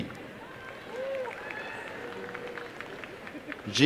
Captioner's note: applause and cheering